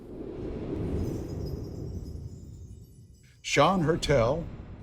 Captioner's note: wind whooshing; bells chiming